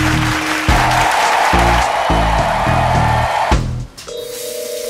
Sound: even more applause

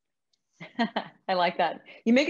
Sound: laughs loudly

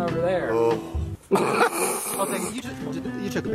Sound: laughs

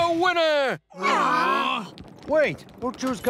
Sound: all sighing

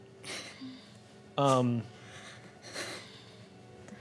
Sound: sobbing

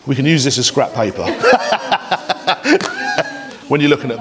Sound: everyone laughs

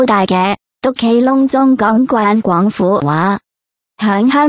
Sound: ภาษา กวางตุ้ง

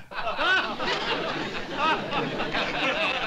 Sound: laughter

